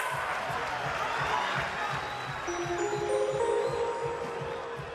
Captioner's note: cheers and applause